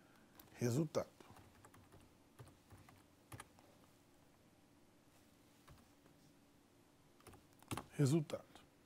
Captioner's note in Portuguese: ruídos do teclado